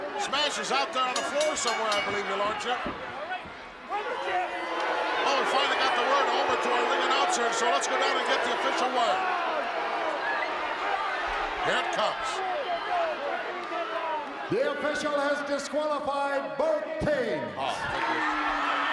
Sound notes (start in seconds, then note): 4.8 crowd booing